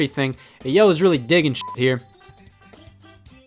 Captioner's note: beep